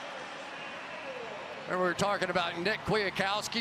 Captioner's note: pa announcement